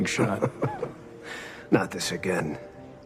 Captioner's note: chuckles